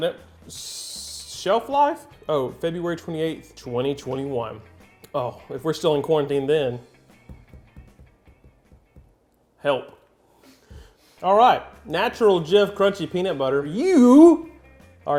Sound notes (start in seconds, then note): none